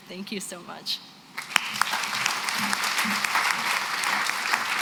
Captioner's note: applause